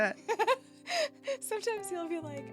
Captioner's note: laughing